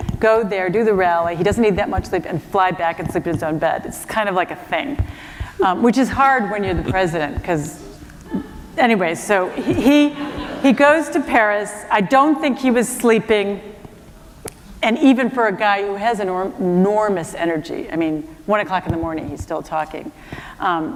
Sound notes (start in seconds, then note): 8.0 laughter; 9.6 laughter